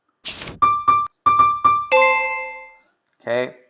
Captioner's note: beeping